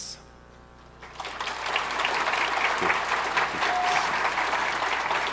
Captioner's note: audience applauding